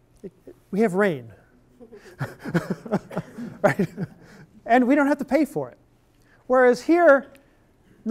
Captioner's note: laughter